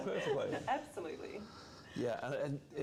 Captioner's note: laughter